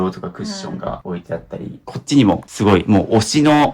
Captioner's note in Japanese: 咳払い